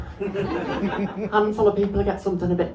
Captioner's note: laughter